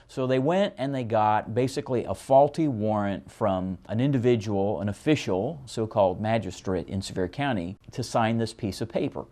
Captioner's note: none